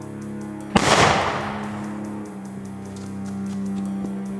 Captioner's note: gun banging